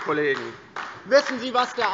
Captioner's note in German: Beifall DIE LINKE